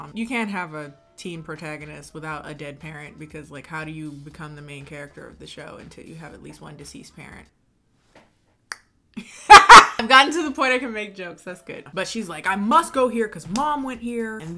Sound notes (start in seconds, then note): 7.8 tongue clicking; 9.2 laughing